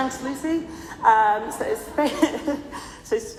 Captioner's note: laughs